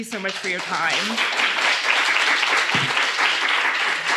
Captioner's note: applause